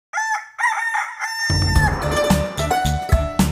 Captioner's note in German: Hahn kräht; Titelmelodie